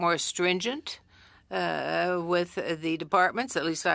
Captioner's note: speaking french